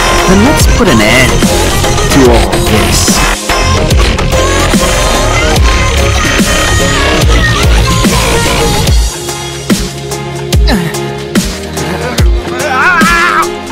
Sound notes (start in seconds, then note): 11.7 sounds of struggle